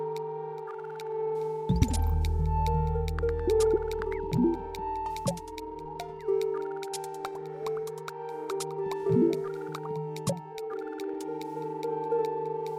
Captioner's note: game audio